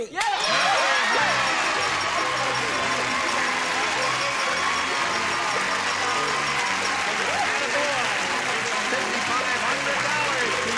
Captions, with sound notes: That ain't it. Comedy! [ding] [cheering]